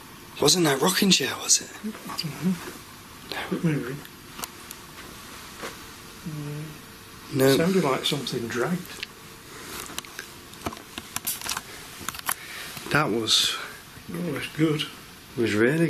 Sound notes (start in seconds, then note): none